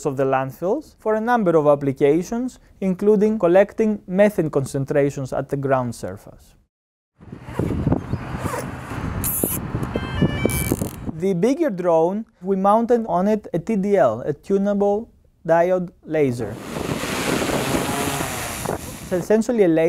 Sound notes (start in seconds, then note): 17.0 drone taking off